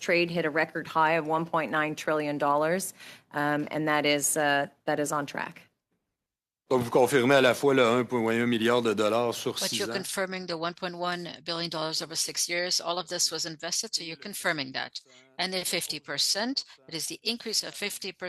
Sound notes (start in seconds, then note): 13.4 speaking French